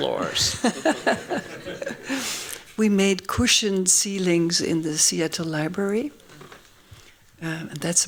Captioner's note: laughs